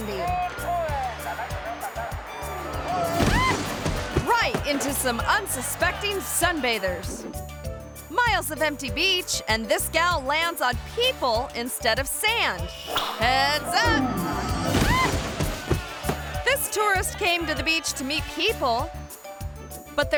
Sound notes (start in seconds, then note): 0.2 people chattering; 3.2 parasailor squeals; 13.6 parasailor squeals